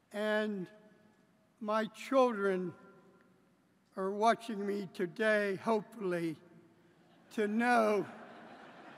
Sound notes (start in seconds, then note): 5.8 laughter